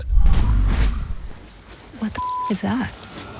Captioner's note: low growling